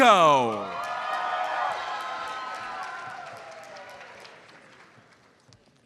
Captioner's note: audience cheers and applauds